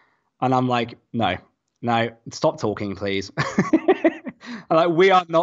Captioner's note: laughs